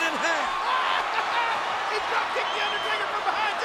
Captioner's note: Jerry laughs